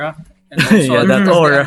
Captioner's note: laughs